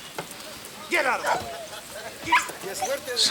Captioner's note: dogs bark